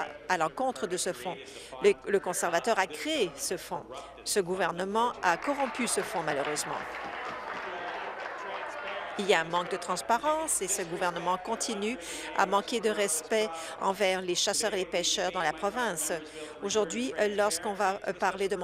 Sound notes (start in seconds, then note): 9.1 applause